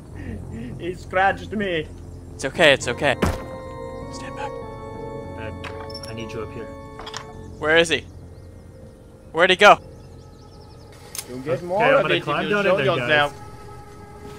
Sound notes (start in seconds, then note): 0.1 gasping; 4.0 whispers